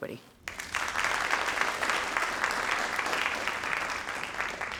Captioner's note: crowd applauding